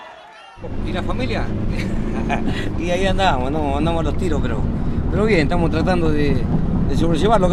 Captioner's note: laughs